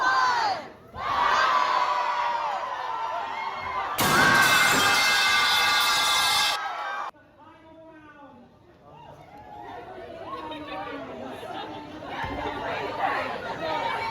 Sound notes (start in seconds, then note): 4.0 loud pipe falling sound effect; 4.2 crowd cheers